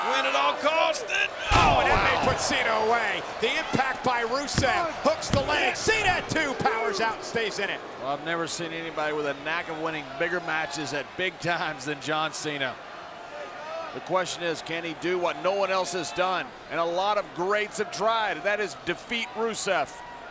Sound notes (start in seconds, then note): 1.5 body thudding; 4.3 hands thudding